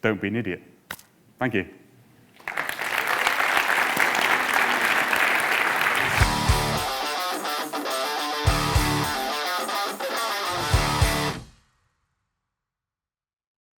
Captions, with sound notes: don't be an idiot. Thank you. (audience applauding) (funky music)